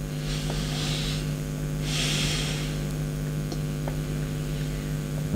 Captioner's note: breathing